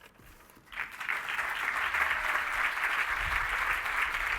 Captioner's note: applause